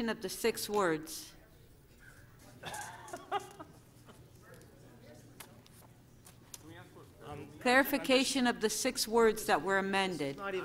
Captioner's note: laughter